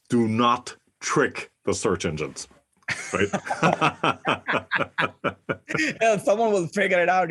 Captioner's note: laugh